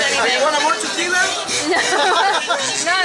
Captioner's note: laughter